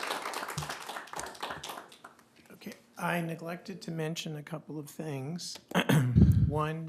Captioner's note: applause